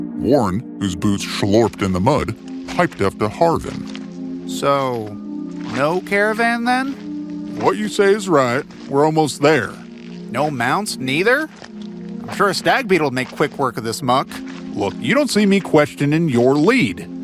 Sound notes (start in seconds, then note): none